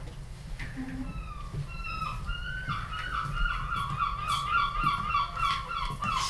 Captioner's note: seagulls cawing